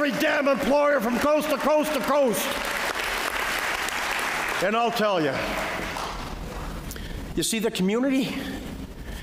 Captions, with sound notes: damn employer from coast-to-coast-to-coast [Applause] and I'll tell you you see the community